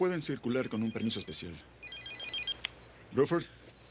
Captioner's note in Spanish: Telefone tocando